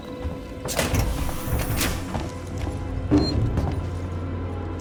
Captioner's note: door hydraulics wheezing